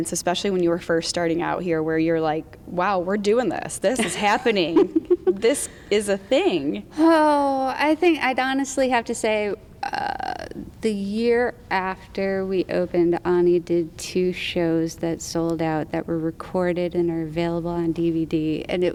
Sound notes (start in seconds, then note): 3.9 laughs